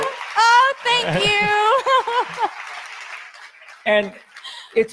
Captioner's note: audience applauds